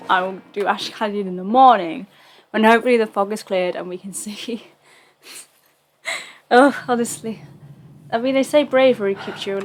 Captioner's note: laughs